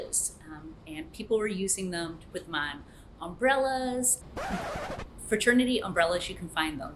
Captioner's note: record scratch